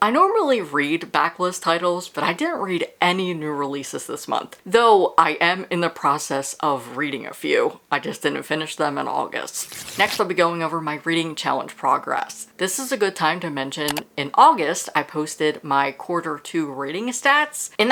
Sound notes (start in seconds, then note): 9.5 page rip